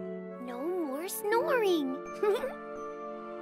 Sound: chuckles

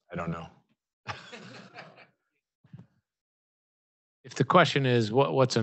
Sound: laughing

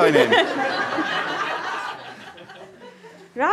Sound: audience laughter

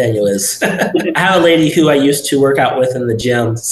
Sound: laughing

